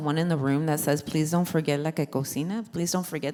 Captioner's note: foreign language spoken